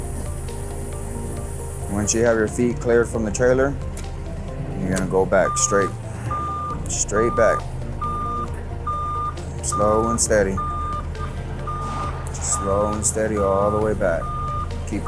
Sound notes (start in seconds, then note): 0.5 upbeat music; 5.0 lift alarm beeps